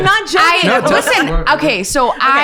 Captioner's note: laughing